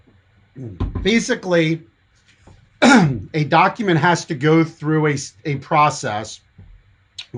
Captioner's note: coughs